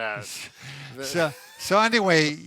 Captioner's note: chuckling